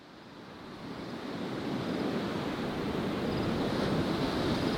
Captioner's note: waves crashing